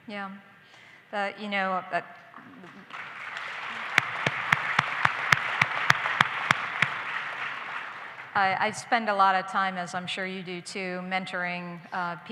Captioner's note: applause